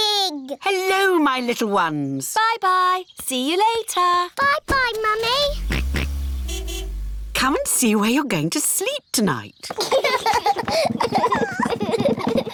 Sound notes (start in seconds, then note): 5.4 car horn honks; 5.8 george oinks; 9.7 children laugh